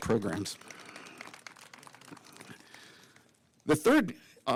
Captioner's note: applause